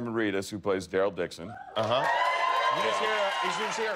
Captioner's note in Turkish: tezahurat ve alkişlar